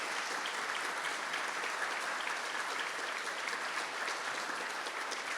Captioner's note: audience applauding